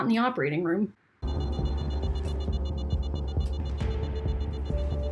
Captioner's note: alarm beeping